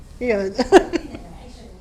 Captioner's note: tearfully laughs